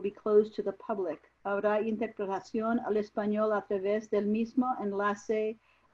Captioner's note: speaking in foreign language